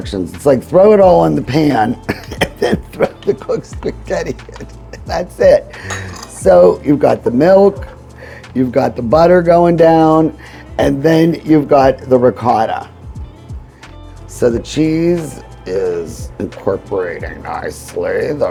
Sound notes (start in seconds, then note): 2.0 laughing